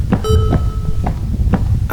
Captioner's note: footsteps